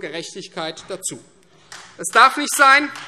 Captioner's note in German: Beifall Freie Demokraten